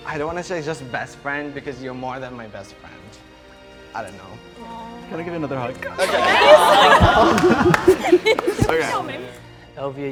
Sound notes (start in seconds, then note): 5.5 crowd; 7.5 laughter